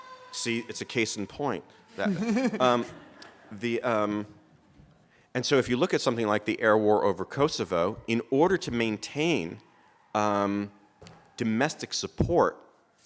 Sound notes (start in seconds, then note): 2.0 laughter